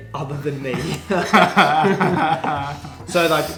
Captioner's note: laughs